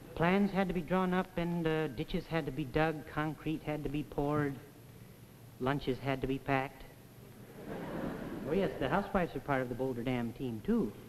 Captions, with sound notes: Plans had to be drawn up, and, uh, ditches had to be dug, concrete had to be poured. Lunches had to be packed. [Audience laughs] Oh, yes, the housewives are part of the boulder dam team, too.